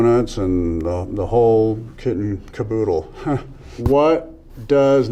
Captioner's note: chuckles